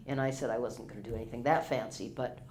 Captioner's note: pat